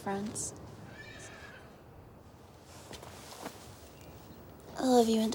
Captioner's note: horse whinnies